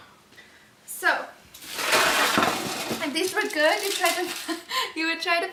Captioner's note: scraping